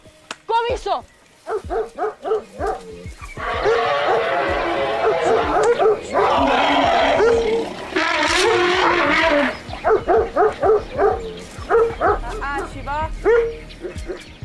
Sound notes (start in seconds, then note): 0.1 speaking foreign language; 1.5 barking; 3.6 trumpeting; 9.7 continues barking